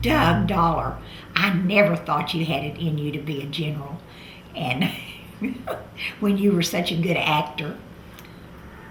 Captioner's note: laughs